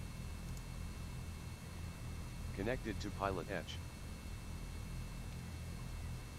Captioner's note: computer voice